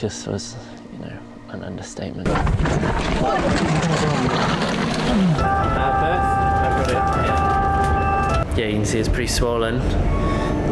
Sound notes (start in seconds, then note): 5.2 siren wails